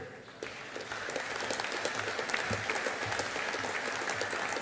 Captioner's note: audience applauding